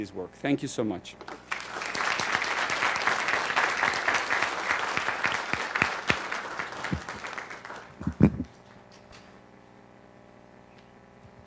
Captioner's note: applause